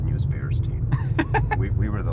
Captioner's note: laughs